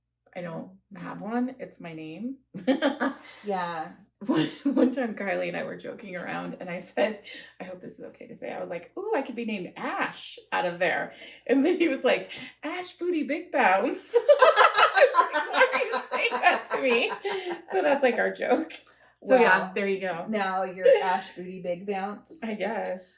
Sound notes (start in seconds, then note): 14.2 laughter; 14.2 more laughter